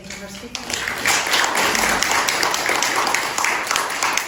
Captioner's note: applause